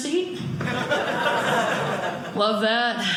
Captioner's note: audience laughing